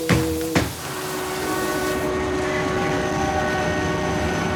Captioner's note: train horn honking